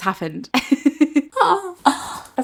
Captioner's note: laughs